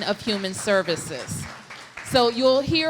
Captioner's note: applause